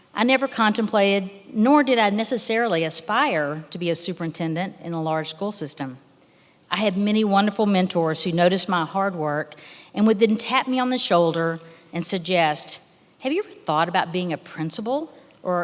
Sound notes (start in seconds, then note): none